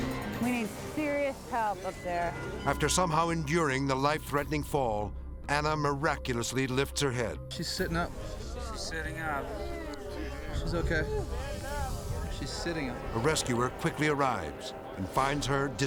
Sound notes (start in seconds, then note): 9.6 onlookers gasping; 11.8 onlookers gasping